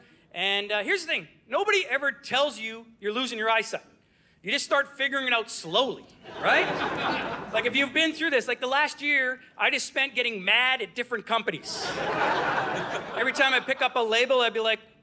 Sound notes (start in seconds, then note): 6.2 audience laughing; 11.6 audience laughing